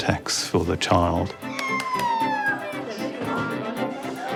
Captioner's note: both cheer